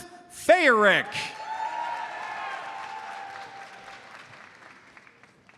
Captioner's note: audience cheers and applauds